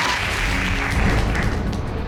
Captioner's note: audience applauding